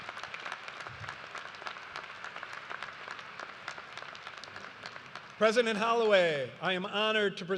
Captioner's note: applause